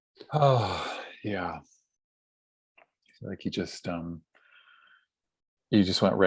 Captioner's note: sighs